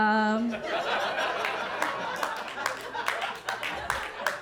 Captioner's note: audience laughing